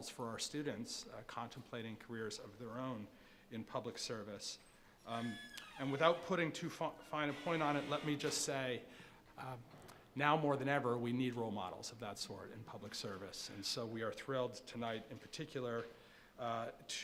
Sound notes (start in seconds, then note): 5.1 door creaking